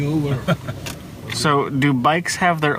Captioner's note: chuckles